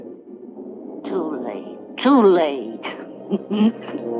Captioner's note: chuckles